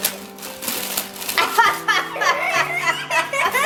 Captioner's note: laughing